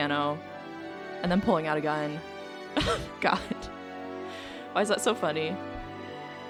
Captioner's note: laughs